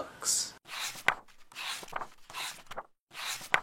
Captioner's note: pages turning